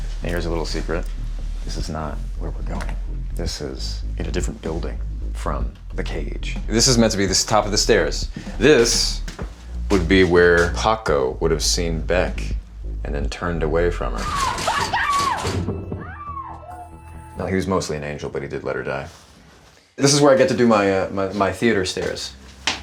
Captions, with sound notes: And here's a little secret. This is not where we're going. This is in a different building from the cage. This is meant to be the top of the stairs. This would be where Paco would've seen Beck and then turned away from her. - Paco! [screaming] - No, he was mostly an angel, but he did let her die. This is where I get to do my theater stairs.